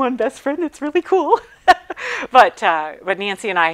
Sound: laughing

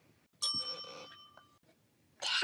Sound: bell dings

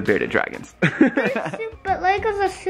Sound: laughing

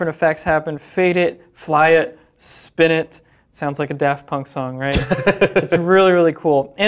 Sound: laughs

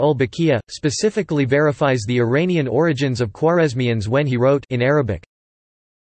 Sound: in Arabic

